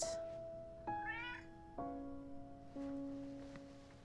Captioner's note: cat meowing; reflective music